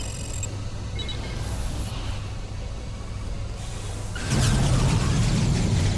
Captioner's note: explosion